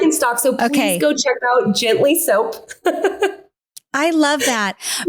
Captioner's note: chuckles